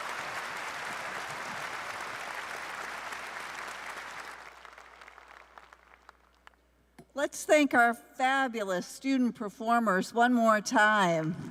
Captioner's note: cheers and applause